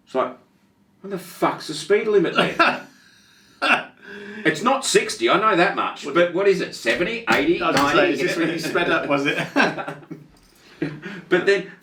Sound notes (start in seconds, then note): 2.3 laughing; 6.8 hands thumping; 10.0 laughing